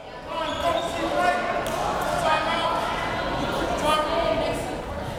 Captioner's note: crowd members talking